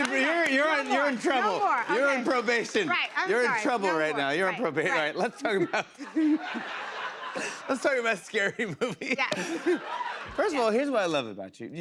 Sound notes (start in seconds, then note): 5.1 laughs